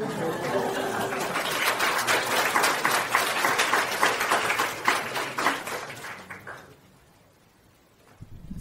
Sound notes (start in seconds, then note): 0.0 audience claps